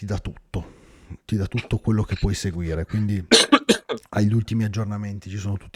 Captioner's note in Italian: schiarire la voce